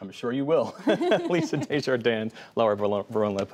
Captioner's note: laughter